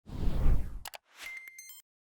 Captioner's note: wind whipping; mouse clicking